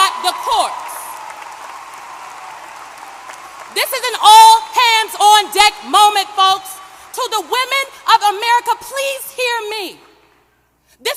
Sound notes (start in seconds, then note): 0.0 applause